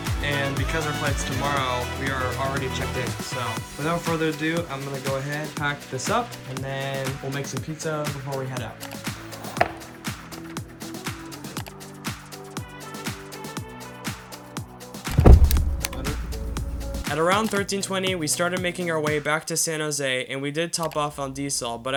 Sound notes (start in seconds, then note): 15.1 opens a Soda Can; 17.0 voiceover